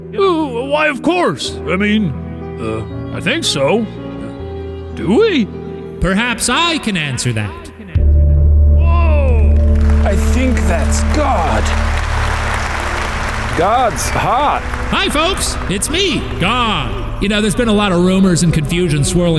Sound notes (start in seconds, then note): 8.1 dramatic music; 11.4 crowd clapping